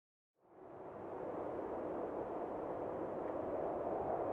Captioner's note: wind whooshing